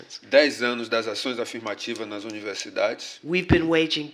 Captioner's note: speaking portuguese